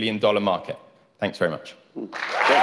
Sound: applause; cheering

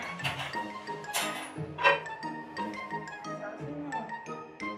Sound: crate banging

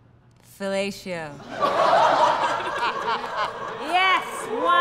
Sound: laughter

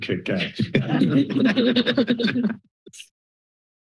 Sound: laughter

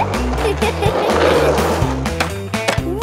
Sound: giggles

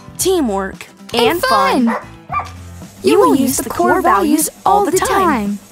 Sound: sound of dog barking

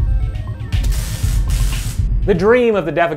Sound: arcade beeping; sizzling

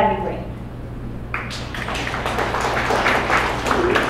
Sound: audience applause

